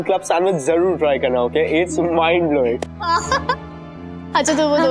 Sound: chuckling

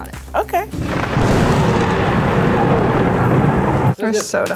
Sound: thunder rumbling

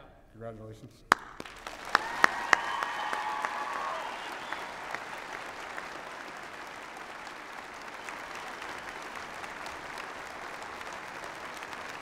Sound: applause and cheering

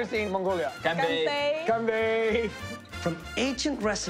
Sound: speaking foreign language

